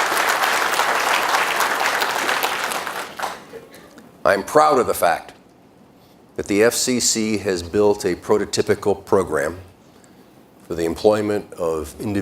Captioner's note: applause